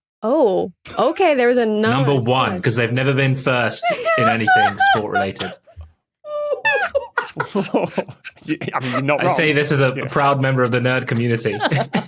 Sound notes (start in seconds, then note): 3.6 sobs; 6.3 group choke-laughing; 11.4 laugh